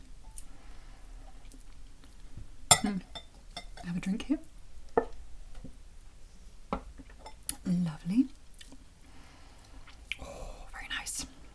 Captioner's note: nomnom; nomnomnom